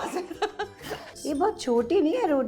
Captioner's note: chuckles